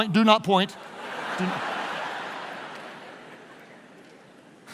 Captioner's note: laughing